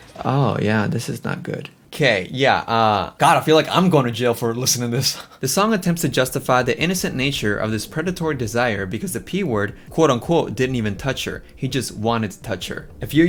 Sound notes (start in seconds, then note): 3.2 laughs